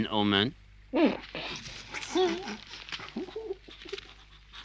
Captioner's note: weasels snicker